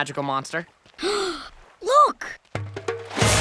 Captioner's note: gasping; splashing